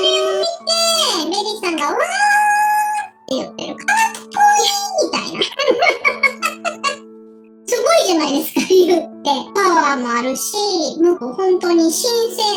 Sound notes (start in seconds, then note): 4.6 laughs